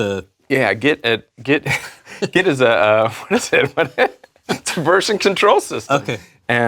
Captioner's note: laugh